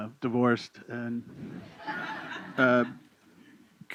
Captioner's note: laughter